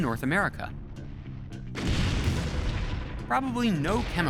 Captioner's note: loud explosion